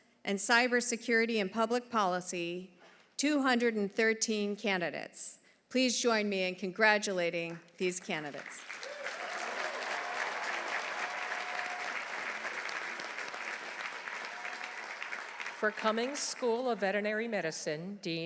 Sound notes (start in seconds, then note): 8.7 audience cheering; 10.0 audience applauding